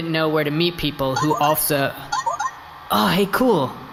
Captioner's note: phone rings